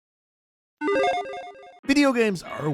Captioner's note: electronic chiming